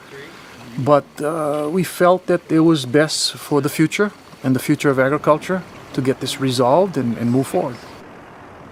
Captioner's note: helicopter whirring